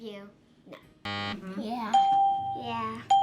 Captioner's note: buzzer; ding